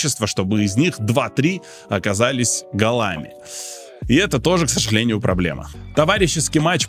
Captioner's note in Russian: фыркает